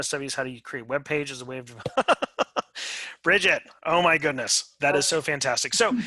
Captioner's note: laughter